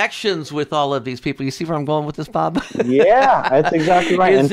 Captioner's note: laughs